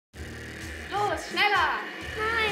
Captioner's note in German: Fahrgeräusche eines Autos